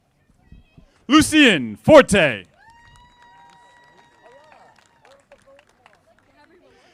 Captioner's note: audience applauding